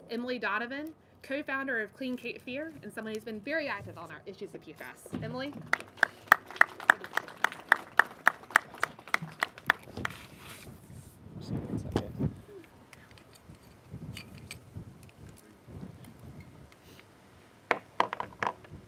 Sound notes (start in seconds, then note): 10.8 applause